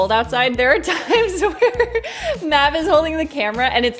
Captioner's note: chuckles